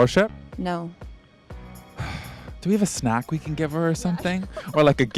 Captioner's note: sighs